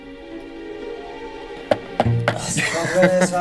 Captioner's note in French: Rires